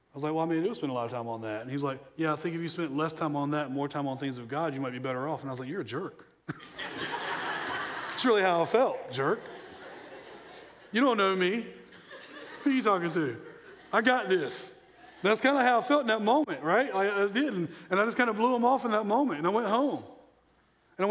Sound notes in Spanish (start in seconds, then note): 6.9 la gente se rie